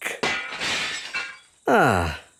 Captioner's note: glass shatters